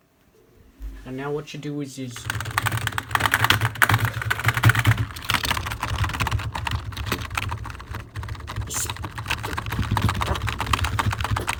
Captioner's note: keyboard Clicking